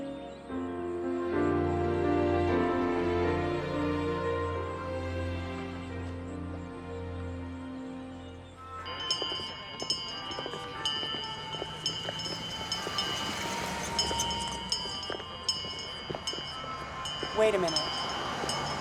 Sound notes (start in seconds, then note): 9.5 christmas music playing; 14.5 bell ringing